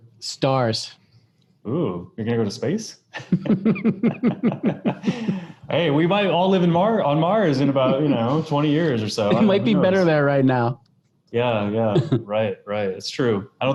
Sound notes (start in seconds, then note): 3.1 laugh